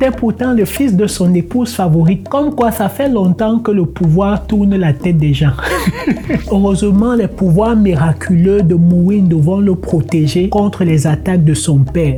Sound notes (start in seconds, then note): 5.6 laughter